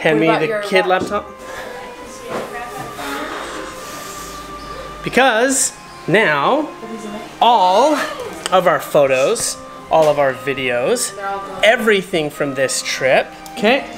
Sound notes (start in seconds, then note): 2.9 sighs